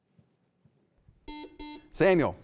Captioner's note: buzzer beeping